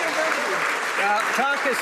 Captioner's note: some Applause